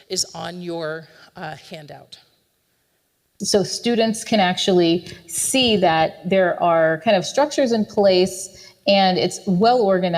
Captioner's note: recording plays